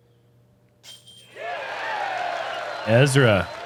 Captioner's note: applause